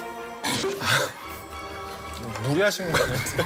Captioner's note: cough